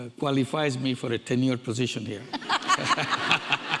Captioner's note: audience laughing; laughs